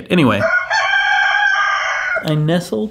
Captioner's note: rooster crowing